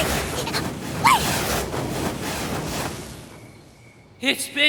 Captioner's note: gasping